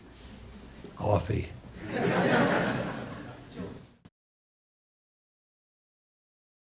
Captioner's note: audience laughs